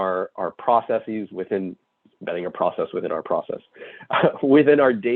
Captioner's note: chuckles